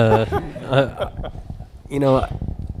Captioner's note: laughter